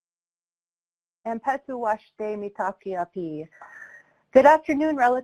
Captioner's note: speaking foreign language